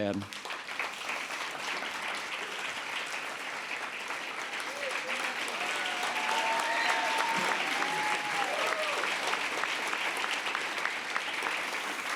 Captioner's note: applause